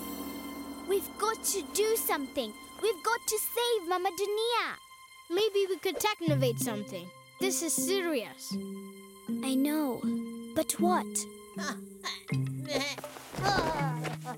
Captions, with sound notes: - We've got to do something. We've got to save Mama Dunia! - Maybe we could technovate something? This is serious. - I know. But what? (bleating)